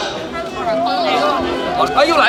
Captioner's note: people chattering